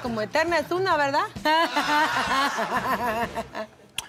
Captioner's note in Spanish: Risas